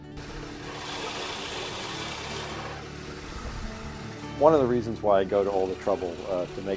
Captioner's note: drilling